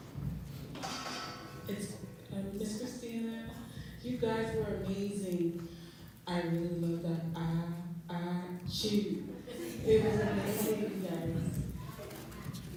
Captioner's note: laughter